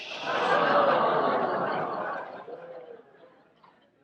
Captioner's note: audience groans